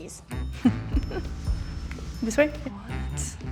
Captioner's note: chuckles